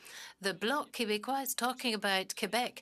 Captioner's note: speaking French